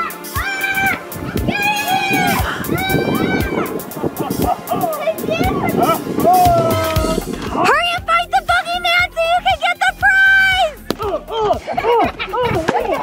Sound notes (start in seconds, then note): 0.5 kids screaming